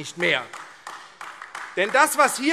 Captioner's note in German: Beifall AfD